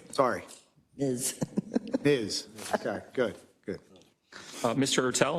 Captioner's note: laugh